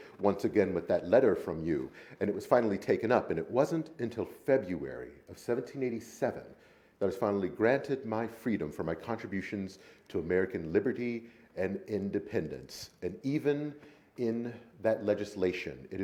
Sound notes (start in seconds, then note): none